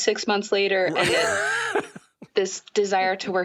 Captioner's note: laughter